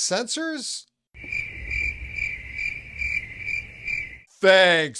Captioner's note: crickets